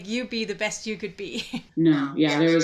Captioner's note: laughs